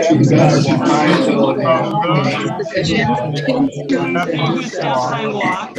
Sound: graduates murmuring

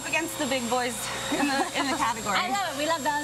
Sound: laughing

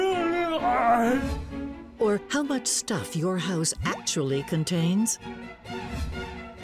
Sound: germ gibbering

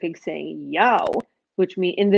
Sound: speaking foreign language

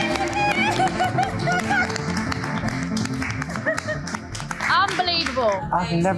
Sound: audience cheering; audience clapping; participant laughing

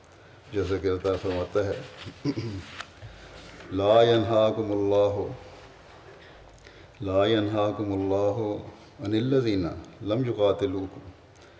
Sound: Arabic

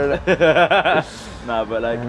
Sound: laughs

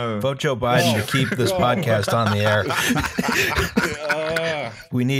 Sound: laughter

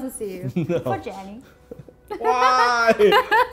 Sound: laughs

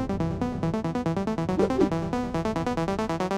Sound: whip sound effect

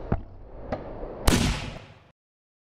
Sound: gunshot

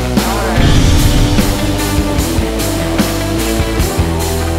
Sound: blasting sound; hardrock music

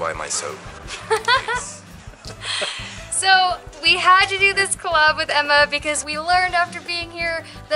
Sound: laughter

